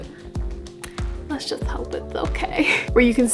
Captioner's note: laugh